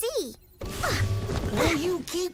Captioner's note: exclaims